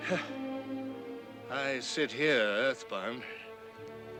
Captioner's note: sighing